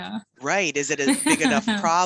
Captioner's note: laughs